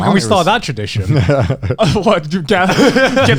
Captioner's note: laughing